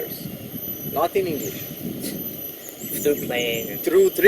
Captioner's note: laughs